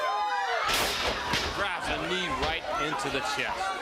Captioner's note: crowd cheering